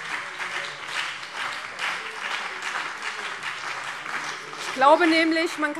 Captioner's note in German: Beifall BÜNDNIS 90/DIE GRÜNEN